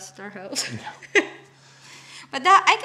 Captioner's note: laughs